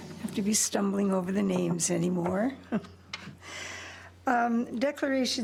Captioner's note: chuckles